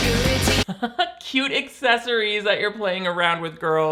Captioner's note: laughs